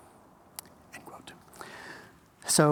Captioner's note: whispered